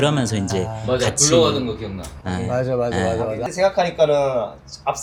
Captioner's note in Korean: 목을 가다듬음